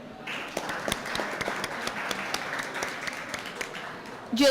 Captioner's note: applause